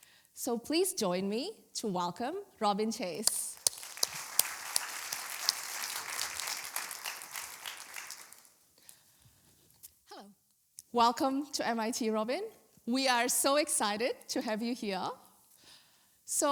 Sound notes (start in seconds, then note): 3.2 applause